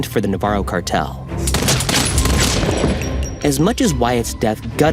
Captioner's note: gun firing